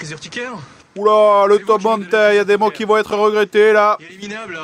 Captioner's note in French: ton de commentateur rugby